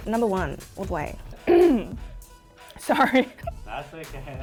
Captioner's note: clears throat